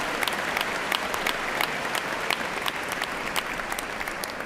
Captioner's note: cheers and applause